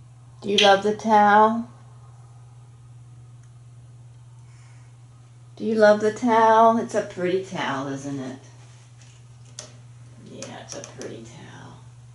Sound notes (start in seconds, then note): none